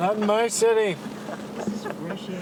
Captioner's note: laughter